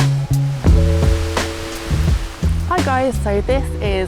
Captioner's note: rain